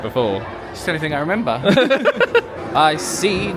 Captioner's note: both laugh